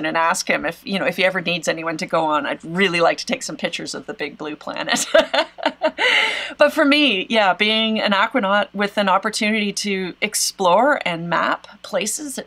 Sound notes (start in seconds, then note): 4.8 laughs